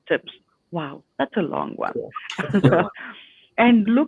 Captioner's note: laughs